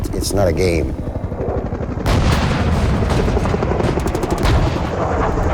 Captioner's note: bombing and gunfire